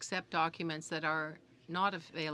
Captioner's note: speaking French